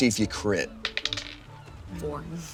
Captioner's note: die rolling